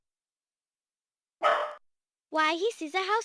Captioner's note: Toto barking